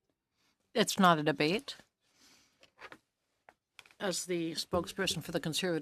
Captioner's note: speaking French